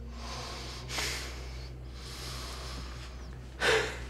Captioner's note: Tyler inhales; Tyler exhales; Ben gasps